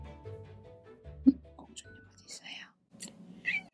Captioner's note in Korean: 속닥속닥